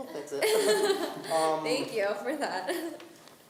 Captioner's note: laughing